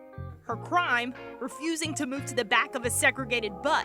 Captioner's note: voiceover